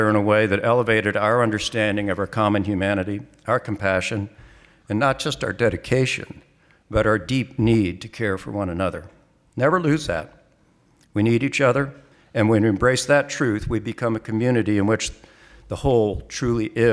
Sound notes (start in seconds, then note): none